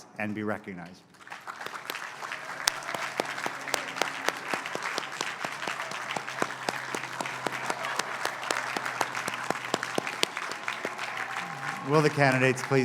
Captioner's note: applause